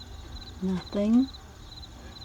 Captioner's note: sounds of crickets